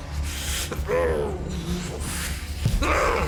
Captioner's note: grunting